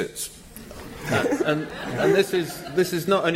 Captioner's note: laughter